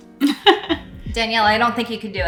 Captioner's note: laughs